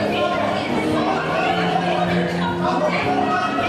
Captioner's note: overlapping shouting